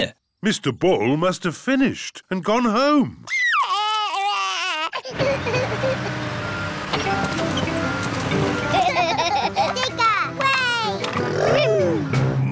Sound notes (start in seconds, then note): 3.3 crying; 5.1 engine rumbles; 8.7 both laugh